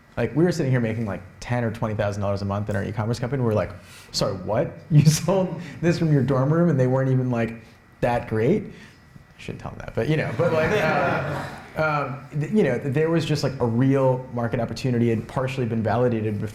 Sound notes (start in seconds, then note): 10.3 laughter